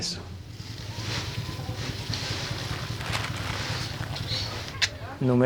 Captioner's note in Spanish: Sonido de hojas de plantas